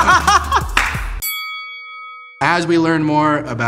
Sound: laughing; chiming

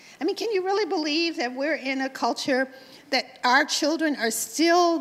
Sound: none

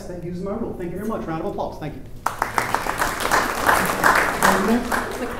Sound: applause

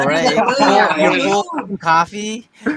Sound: everyone laughing

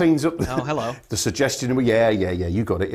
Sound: chuckle

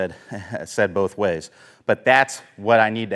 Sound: chuckles

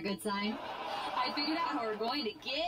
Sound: audience laughter

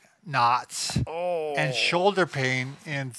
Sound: grunting

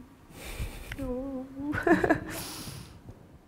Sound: laughs

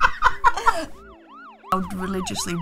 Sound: both laughing; police siren wailing

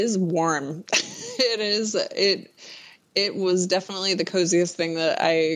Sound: laughs

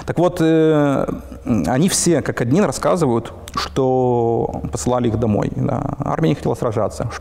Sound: russian

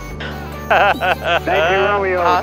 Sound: laughs

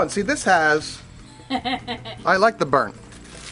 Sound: woman laughs

